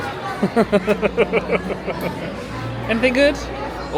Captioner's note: laughs